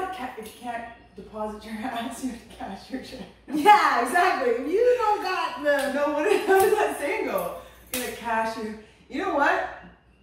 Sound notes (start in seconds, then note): 3.6 laughter